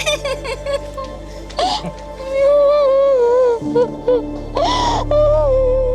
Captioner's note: chuckles; sobs heavily